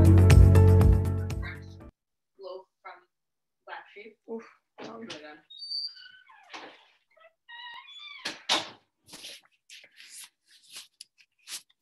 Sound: silence

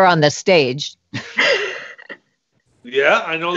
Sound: laugh

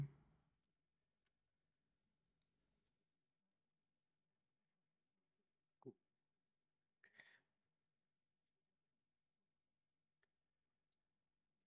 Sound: silence

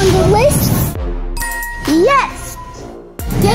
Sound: chiming

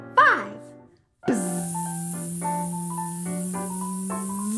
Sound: buzzing

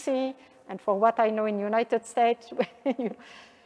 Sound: chuckles

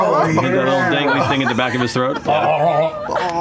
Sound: laughter

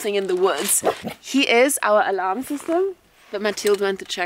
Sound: Vilk barking

